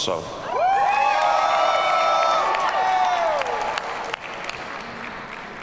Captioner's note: audience cheers and applauds